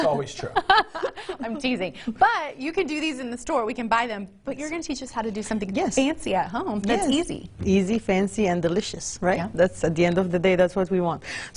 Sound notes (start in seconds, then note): 1.7 all laugh